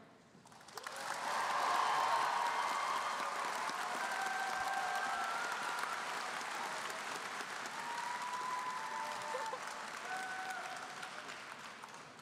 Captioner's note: applause